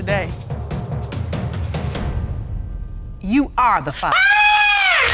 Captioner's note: audience applauding; screams